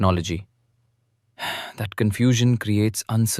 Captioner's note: sighs